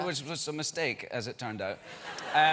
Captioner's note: laughter